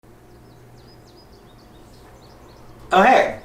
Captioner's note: birds chirp